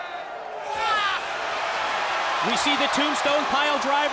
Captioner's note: crowd chatter